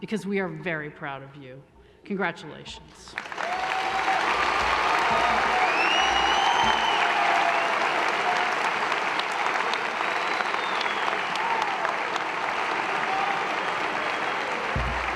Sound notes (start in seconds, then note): 3.3 applause